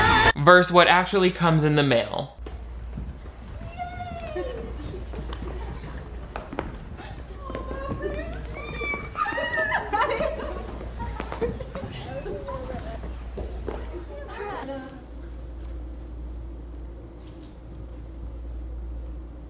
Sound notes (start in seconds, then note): 6.9 guest squeals; 9.8 guest laughs